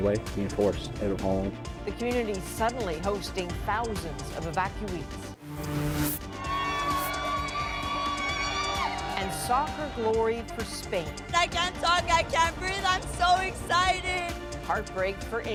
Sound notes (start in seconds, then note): 8.9 cheers and Applause